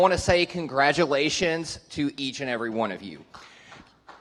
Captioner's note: applause